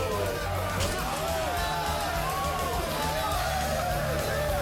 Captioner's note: crowd; crowd cheering